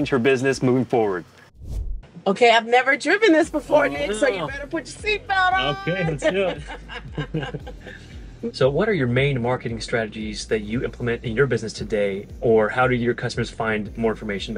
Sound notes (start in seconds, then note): 5.5 laughs